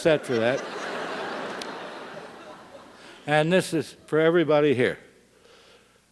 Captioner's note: laugh